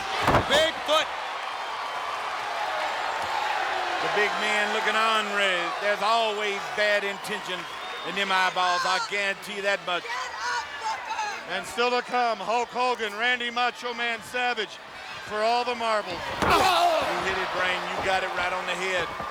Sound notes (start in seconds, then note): 1.7 crowd cheering; 16.4 Booker grunting